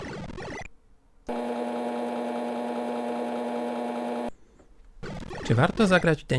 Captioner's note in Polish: dźwięk działającej stacji 3.5